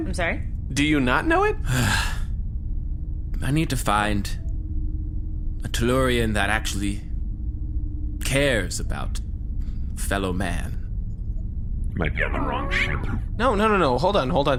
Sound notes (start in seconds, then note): 3.0 weary sigh